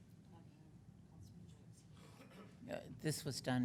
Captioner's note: speaking faintly